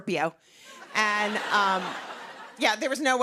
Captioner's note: laughter